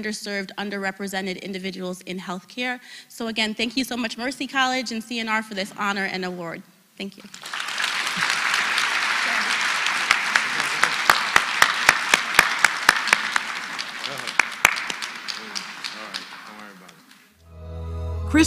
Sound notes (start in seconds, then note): 7.2 applause